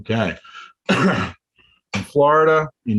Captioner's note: coughs